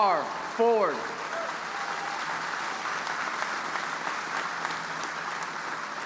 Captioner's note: audience applauding